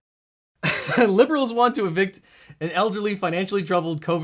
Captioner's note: laughs